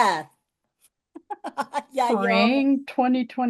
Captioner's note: laughs